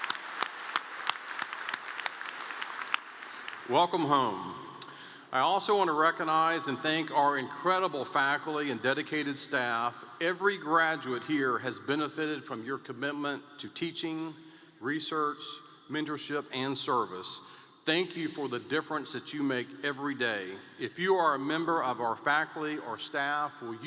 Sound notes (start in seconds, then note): 3.8 cheers and Applause